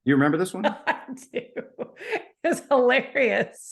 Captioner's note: person laughing